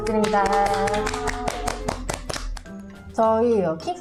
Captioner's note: claping